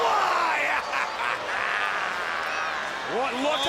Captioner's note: laughs